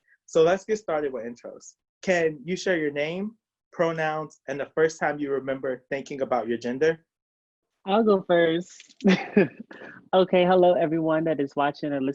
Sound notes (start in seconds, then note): 9.1 chuckles